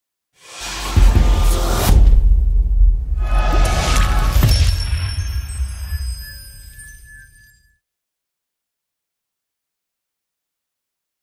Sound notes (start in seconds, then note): 0.4 dramatic music; 4.0 chimes ringing